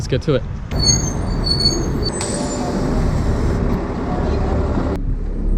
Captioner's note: bus screeching to a stop